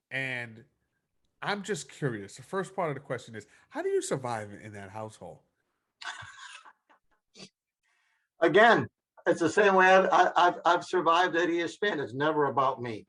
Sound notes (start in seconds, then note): 6.0 laughing